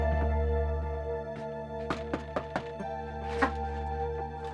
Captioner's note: knocks on door